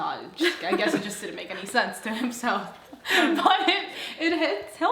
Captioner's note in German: lacht